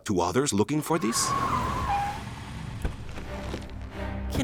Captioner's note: tires squeal